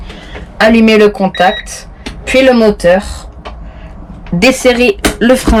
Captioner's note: bip